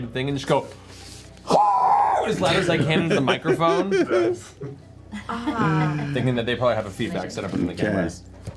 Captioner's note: screams